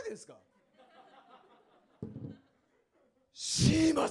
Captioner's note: laughs